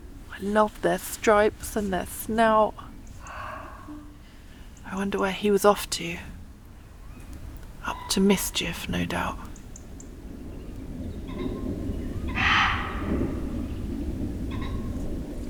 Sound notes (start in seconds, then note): 12.2 demonic muntjac bark